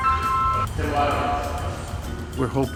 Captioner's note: T-Mobile ringtone